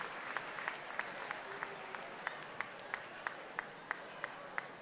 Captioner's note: audience chattering